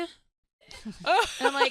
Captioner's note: laughing